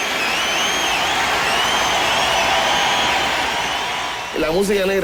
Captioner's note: crowd cheers